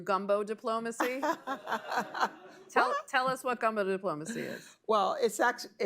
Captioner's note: laughter